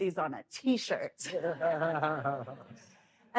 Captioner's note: laughter